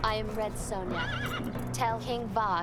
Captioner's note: horse whinnies